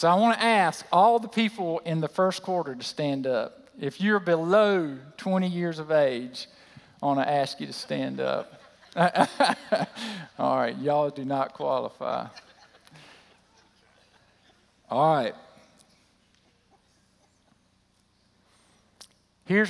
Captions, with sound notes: I want to ask all the people in the first quarter to stand up. If you're below 20 years of age, I want to ask you to stand up. [laughter] Alright y'all do not qualify. Alright.